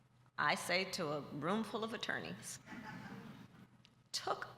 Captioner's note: laughter